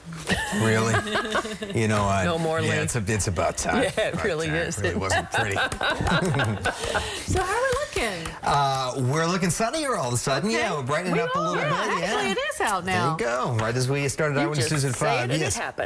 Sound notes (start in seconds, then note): 11.1 laughter